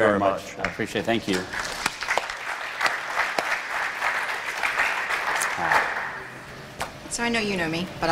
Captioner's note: applause